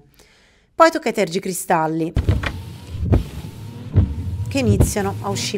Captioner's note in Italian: Rumore di tergicristalli